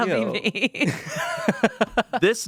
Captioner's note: everyone laughs